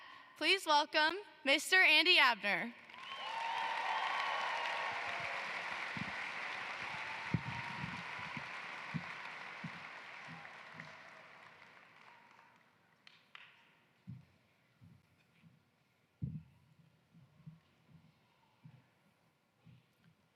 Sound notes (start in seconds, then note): 5.6 applause